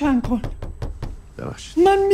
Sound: door knocking

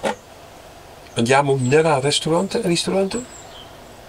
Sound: italian

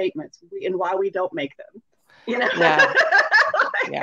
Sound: laughs

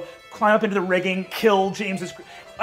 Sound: none

